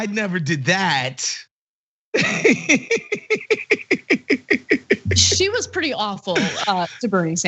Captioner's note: laugh